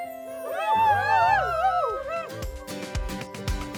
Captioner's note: crowd cheering; upbeat music